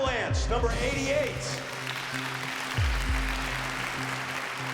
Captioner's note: applause